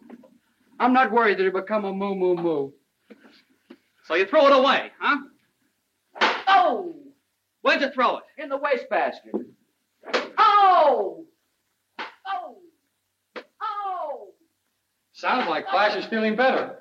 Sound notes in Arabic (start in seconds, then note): 6.2 صفعة على اللوح; 12.0 صفعة على اللوح